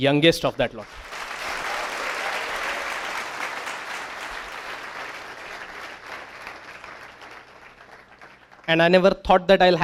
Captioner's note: applause